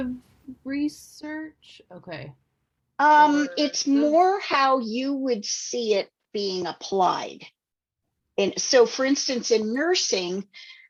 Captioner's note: alarm ringing